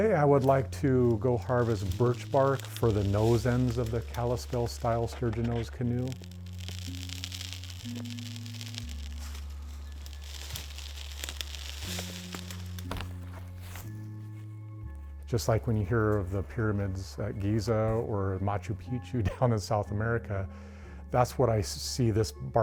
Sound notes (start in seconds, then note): 7.2 peeling bark